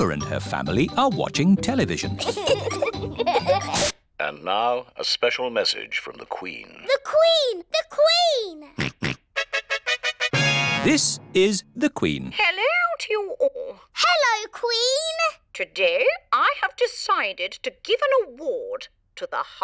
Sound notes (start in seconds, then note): 2.2 both giggling; 9.0 snorts; 9.3 trumpet fanfare on tv